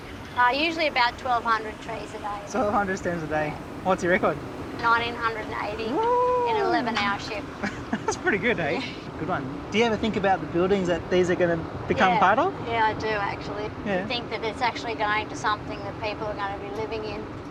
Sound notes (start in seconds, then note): 7.6 chuckles